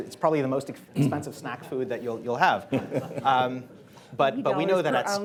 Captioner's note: laughter